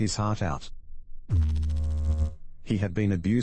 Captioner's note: electrical noise